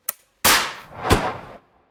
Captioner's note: gun fired